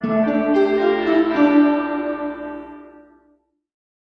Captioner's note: bells tolling